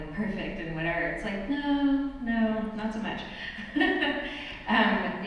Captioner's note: laughs